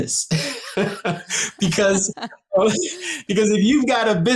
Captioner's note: both laughing